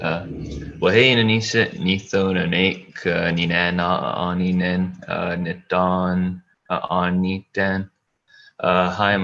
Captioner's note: foreign Language